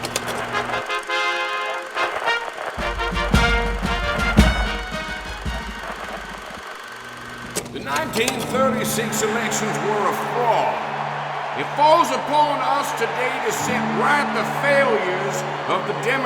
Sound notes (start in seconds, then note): 5.8 radio sputters; 10.8 crowd cheering